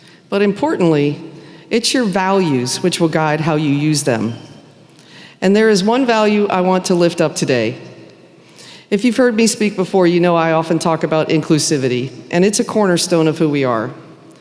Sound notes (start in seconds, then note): none